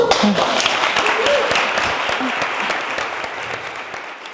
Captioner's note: audience applauds